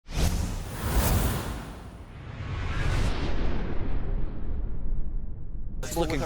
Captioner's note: sound effect